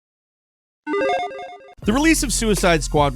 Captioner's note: logo dinging